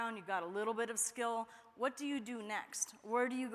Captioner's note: none